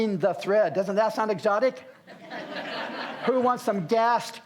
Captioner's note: audience laughs